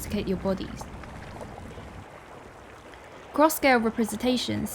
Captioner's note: water running